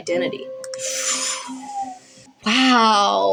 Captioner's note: sharp Inhale